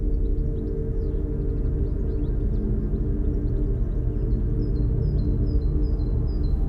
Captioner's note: gentle tense music; birds chirping